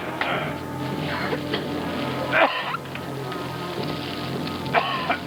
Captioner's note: coughing